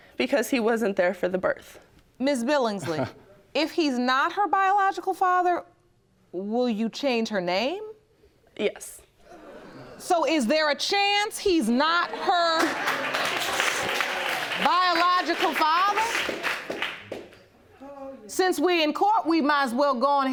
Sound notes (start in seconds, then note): 12.2 audience applauding